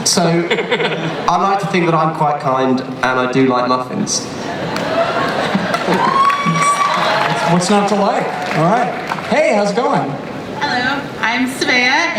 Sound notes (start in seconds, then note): 4.5 audience applause; 10.5 voiceover